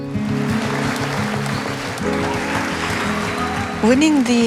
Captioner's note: applause